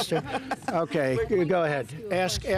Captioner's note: laughs